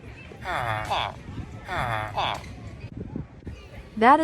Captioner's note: villager noises